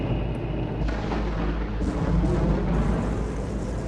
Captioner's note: thunder claps